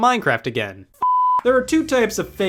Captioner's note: beep